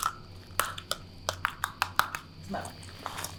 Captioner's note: metallic raps